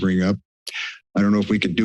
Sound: inhales

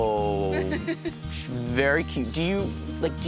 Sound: laughing

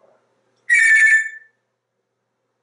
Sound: telephone sound

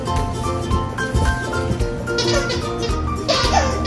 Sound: toy squeaks

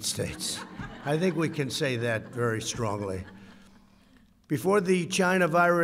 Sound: laughter

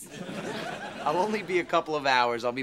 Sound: audience laughing

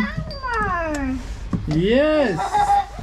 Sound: chatters

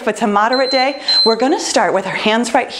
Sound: timer beeps

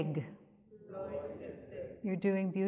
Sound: speaks in Yiddish; audience speaks in Yiddish

